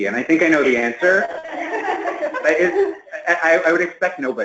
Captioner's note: laughter